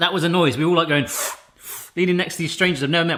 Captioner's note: slurps